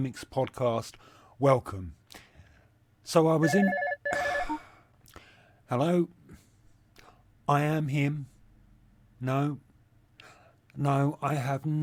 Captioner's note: phone ringing